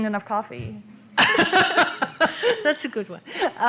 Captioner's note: laughter